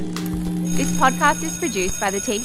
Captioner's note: bell ringing